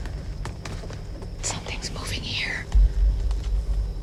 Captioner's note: whispering